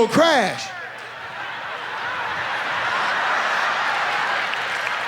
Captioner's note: audience laughs